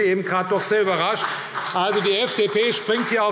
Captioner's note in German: Vereinzelter Beifall CDU und BÜNDNIS 90/DIE GRÜNEN